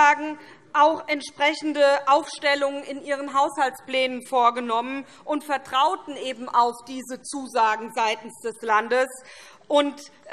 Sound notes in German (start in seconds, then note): none